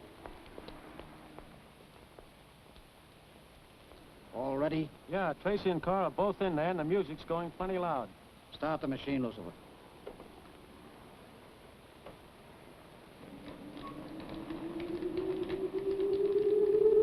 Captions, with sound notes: (feet pattering) - All ready? - Yeah, Tracy and Carr are both in there and the music's going plenty loud. - Start the machine, Lucifer. (magical music)